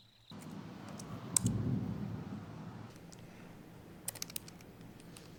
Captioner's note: keyboard clicking